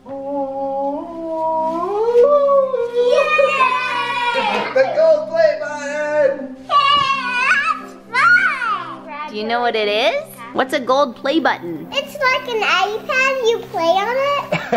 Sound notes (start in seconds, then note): 0.0 laughing; 3.5 kids In Unison; 14.4 laughing